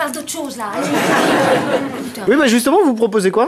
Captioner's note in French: rires